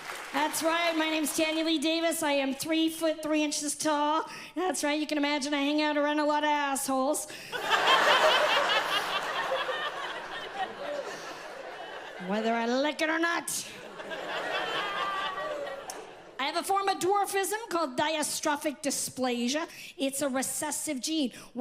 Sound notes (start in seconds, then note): 7.5 audience laughs loudly